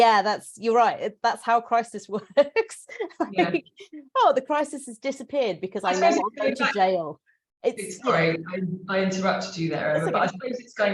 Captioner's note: sarcasm